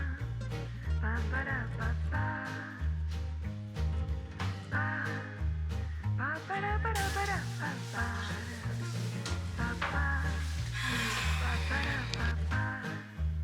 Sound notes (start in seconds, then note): 10.7 sigh